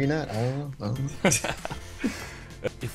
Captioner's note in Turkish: gergin gülüşler